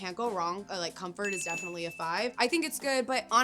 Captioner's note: bell ringing